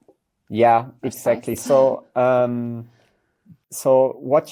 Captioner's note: laughs